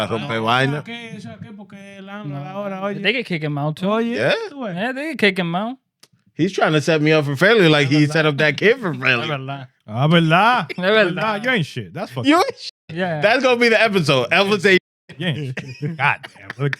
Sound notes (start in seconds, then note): 9.9 speaking In Foreign Language; 15.1 laughing